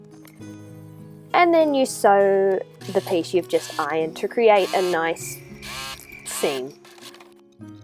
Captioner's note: crickets